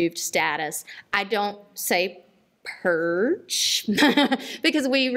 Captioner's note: laughs